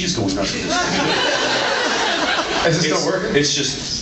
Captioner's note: laughs